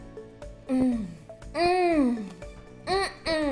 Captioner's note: humming